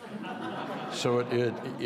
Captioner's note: audience laughs